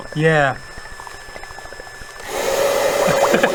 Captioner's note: mechanical hamster whirring intensifies